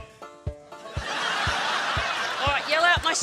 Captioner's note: laughter